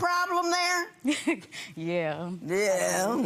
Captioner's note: chuckling